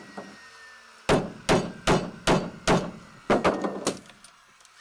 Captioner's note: hammer banging